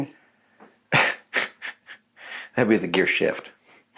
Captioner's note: chuckles